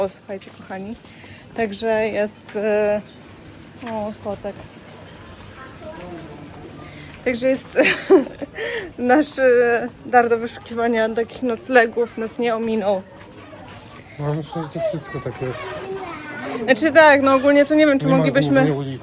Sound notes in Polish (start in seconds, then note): 7.7 śmiech